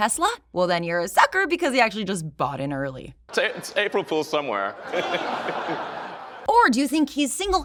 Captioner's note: crowd laughter